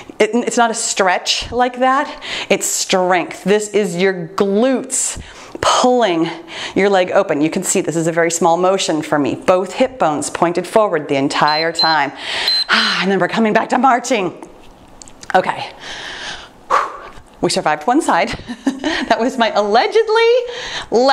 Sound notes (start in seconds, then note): 11.4 timer beeps; 12.8 sighs; 16.8 sighs